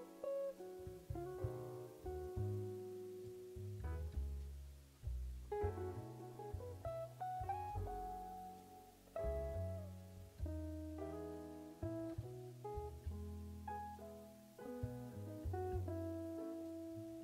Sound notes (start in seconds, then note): none